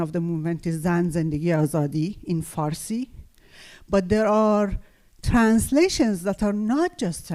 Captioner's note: farsi